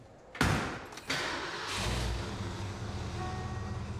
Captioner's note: closes car door; engine starts